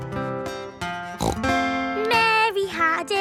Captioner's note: playing guitar; snorts